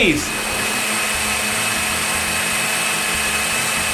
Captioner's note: blender noise